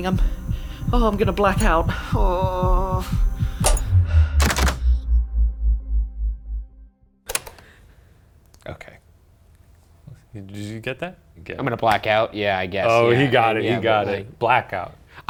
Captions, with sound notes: I'm, oh, I'm gonna black out. (groans) (heart beating) (tape recorder clicks) - Okay. Did you get that? - I'm gonna black out. Yeah, I guess. - Oh, he got it. He got it, "Blackout."